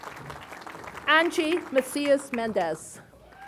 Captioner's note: applause